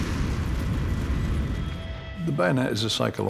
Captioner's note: thunderclap